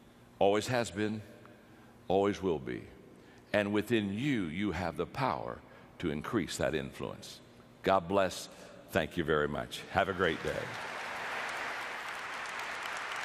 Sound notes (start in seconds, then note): 10.1 audience applause